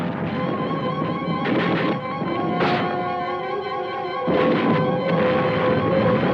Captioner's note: bold orchestral music; gunshots blasting